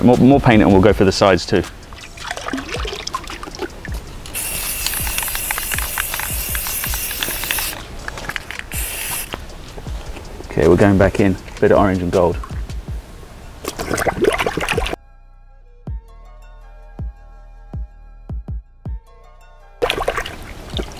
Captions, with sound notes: All right, more paint, and we'll go for the sides too. (spray can clicking) Okay, we're going back in, bit of orange and gold. (water gargling)